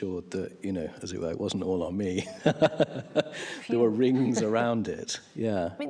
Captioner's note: laughs